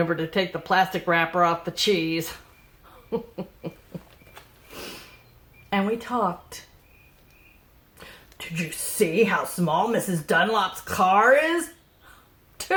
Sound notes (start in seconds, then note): 2.8 laughs